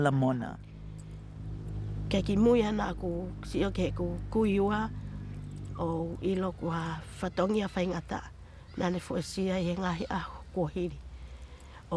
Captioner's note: foreign Language